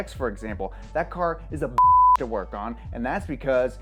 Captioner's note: beep